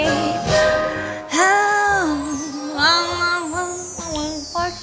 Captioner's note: humming in excitement